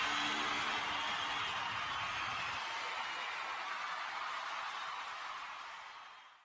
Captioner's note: cheering